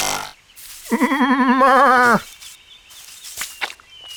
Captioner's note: sheep bleats